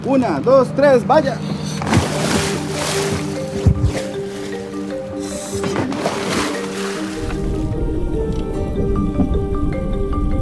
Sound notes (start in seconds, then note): 0.1 speaking in a foreign language; 2.0 water splashing; 7.7 gentle music